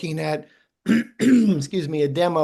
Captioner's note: clears throat